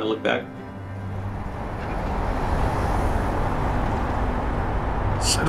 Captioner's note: truck whooshes